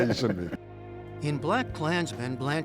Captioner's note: laughter